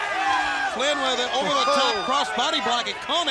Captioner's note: crowd chatter